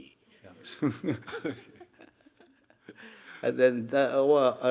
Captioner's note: audience chuckling; chuckling